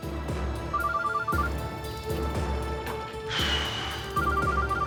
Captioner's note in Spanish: Suena el celular